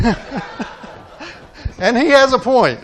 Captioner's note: audience laughing